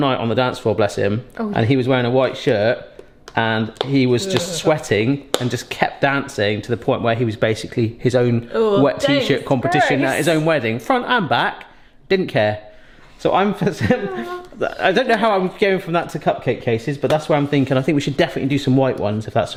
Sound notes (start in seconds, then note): 4.2 shudders; 13.6 giggles